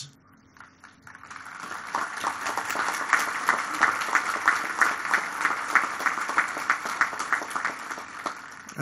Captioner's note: applause